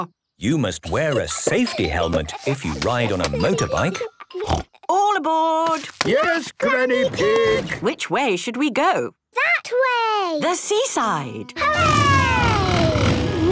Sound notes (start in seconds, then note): 4.3 snort